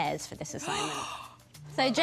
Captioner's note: gasps